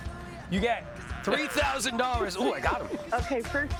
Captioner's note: laughter